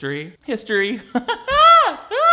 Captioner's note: laughs